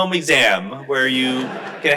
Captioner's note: crowd laughs